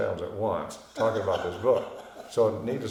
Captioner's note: laughing